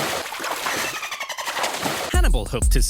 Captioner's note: dolphin squeaking